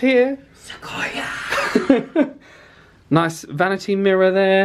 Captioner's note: laughs